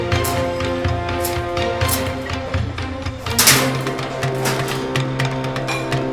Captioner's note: dramatic music continues; gate rattling